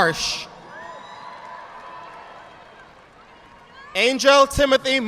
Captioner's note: audience applauding